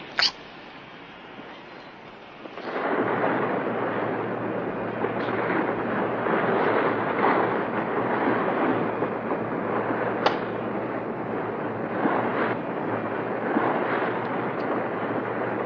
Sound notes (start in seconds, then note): 2.4 boat rumbling